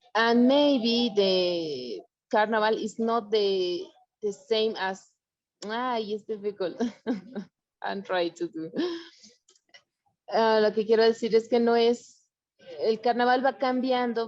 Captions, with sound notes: And maybe the carnival is not the same as... Ah, used to be called? (chuckles) I try to do. (speaking foreign language)